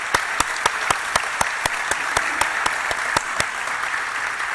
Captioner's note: applause